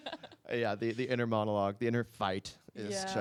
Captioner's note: laughing